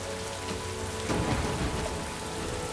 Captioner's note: thunder rumbling